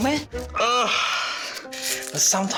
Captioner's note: groans